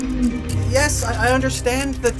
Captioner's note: low pitched hoot